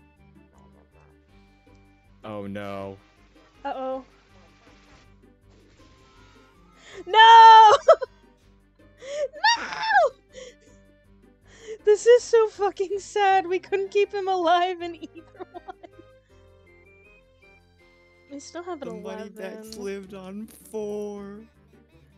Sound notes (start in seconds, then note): 14.8 laughs